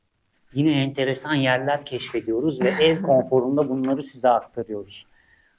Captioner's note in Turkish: boğazını temizler